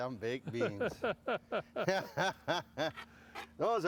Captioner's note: laughs